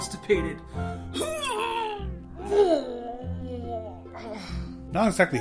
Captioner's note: makes constipated noises